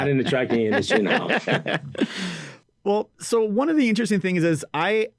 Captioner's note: laughs